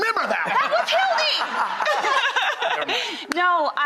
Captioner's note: laughs